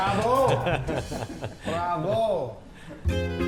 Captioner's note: clapping; laughing; jazzy folk music